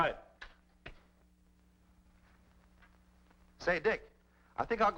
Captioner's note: light clicks